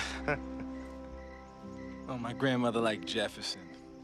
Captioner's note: chuckling